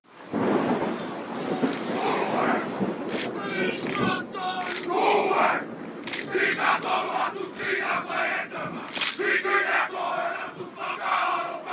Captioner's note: men Chanting